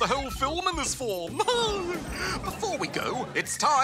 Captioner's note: laughs